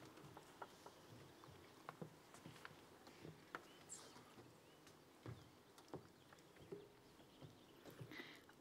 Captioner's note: bird Chirping Sounds